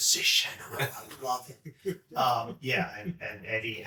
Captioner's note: chuckling